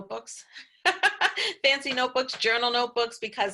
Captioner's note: laughs